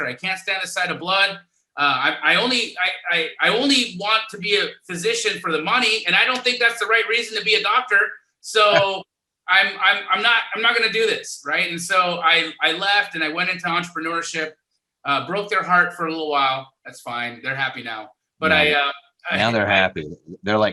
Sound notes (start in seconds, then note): 8.6 laughing